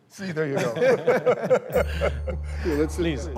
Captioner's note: laughing